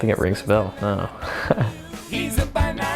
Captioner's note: laughing